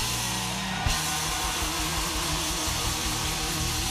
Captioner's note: cheers and applause